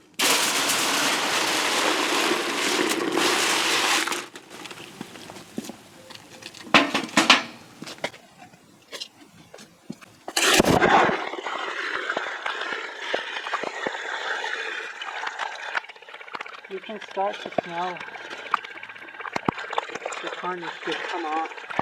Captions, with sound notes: (Sound of water pouring into bucket.) (Thud of bucket dropped on floor off camera) (Sound of water pouring into bucket.) You can start to smell... the tarnish just come off.